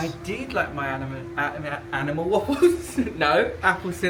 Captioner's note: laughing